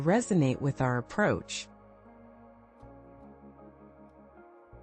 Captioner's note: pause